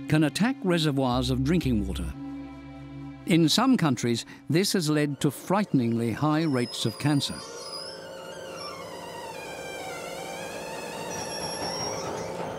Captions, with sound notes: can attack reservoirs of drinking water. In some countries, this has led to frighteningly high rates of cancer. [electric gate screeching]